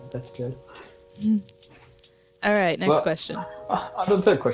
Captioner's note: smol voice; smile noises